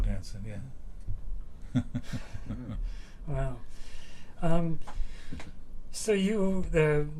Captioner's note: laughs